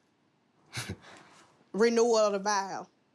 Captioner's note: scoff